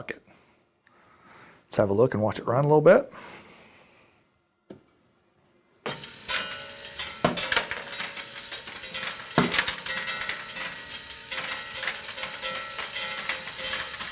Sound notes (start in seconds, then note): 2.9 metallic dropping sounds